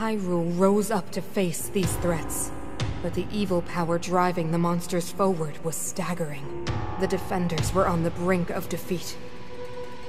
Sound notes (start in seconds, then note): none